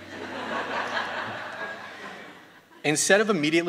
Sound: students laughing

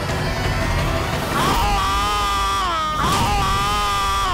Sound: yelps

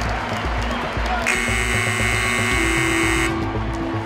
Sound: buzzer

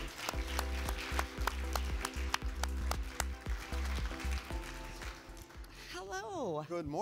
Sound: applause

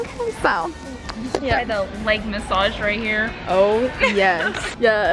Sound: laughs

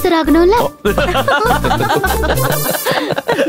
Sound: laughs

